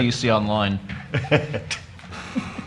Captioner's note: laughter